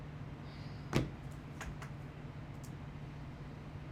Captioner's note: phone taps